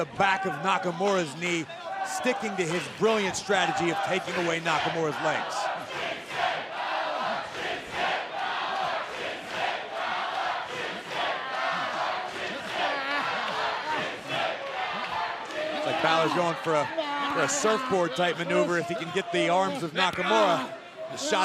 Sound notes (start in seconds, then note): 9.3 fans chanting